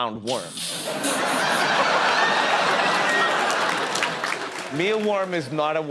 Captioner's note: audience laughter